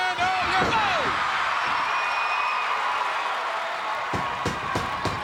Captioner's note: crowd cheering